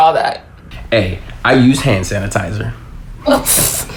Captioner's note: chuckles